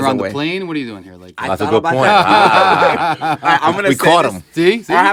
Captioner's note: laughter